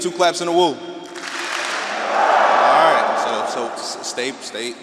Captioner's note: audience clapping and wooing